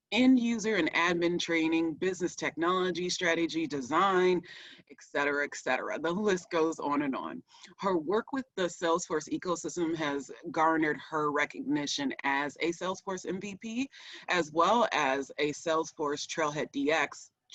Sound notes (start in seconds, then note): none